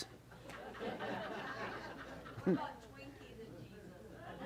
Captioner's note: audience laughs